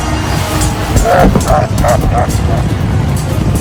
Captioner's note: derisive laughter; sounds of wild debauchery